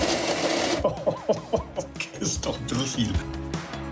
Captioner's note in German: lacht